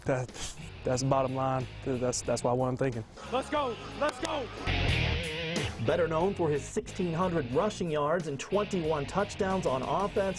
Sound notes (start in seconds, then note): 4.0 claps